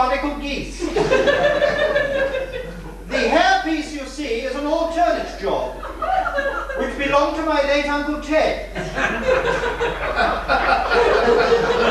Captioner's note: laughter